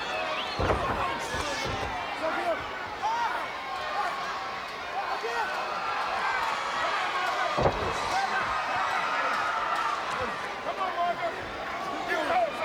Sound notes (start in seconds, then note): 0.5 body thudding; 7.3 crowd yelling